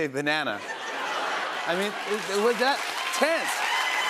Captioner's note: laughter